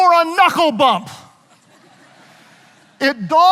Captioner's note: audience laughing